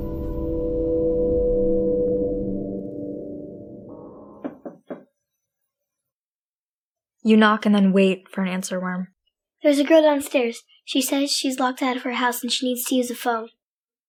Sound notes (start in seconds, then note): 4.4 soft knocking